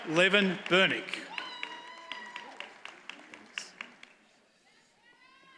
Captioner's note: audience cheers and applauds